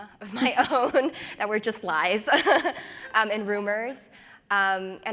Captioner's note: laughs